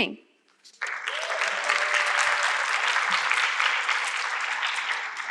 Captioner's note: audience clapping